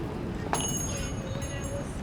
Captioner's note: bells jingling